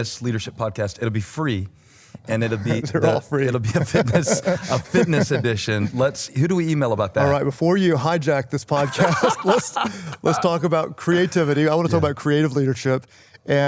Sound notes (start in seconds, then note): 2.5 chuckles; 8.7 laughter